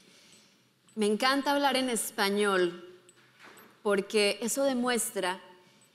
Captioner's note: speaking in foreign language